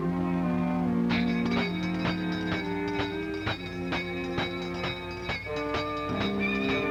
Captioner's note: hand bell ringing loudly